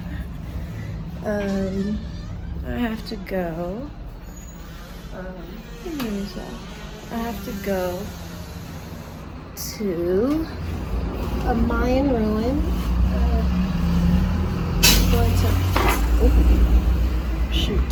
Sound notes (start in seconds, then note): 8.1 laughs